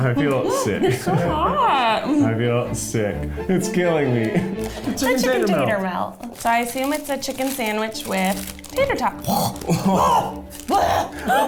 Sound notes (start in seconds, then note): 6.2 rustling